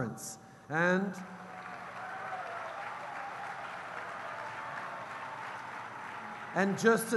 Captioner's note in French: Acclamations et applaudissements